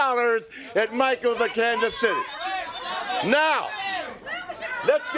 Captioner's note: crowd chatter